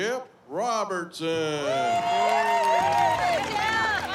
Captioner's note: cheering